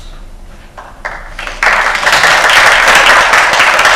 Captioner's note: applause